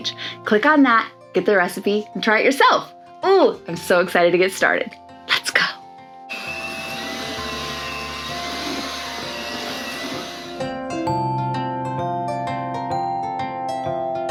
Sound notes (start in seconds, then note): 6.3 blender whirring; 11.5 gentle music